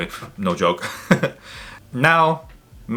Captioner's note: laughs